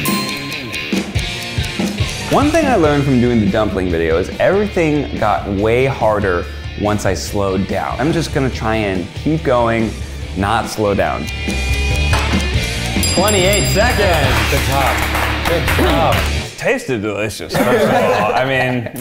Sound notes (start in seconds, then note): 0.0 countdown dings; 0.2 clock ticking; 12.4 timer dings; 14.0 applauding